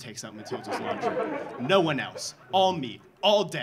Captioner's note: audience laughing